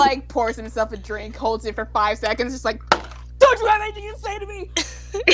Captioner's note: bang